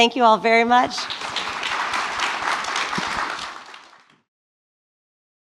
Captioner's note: applause